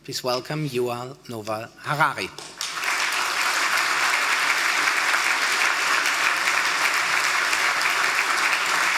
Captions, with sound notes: Please welcome Yuval Noah Harari. (audience applauding)